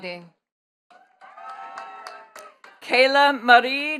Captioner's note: attendees cheering and clapping